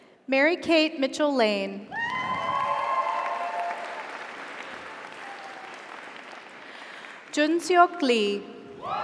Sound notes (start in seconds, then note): 2.1 audience applauds; 2.4 audience cheers